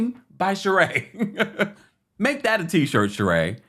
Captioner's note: chuckling